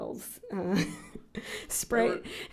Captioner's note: laughs